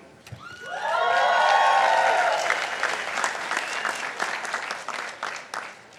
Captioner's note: participants applauding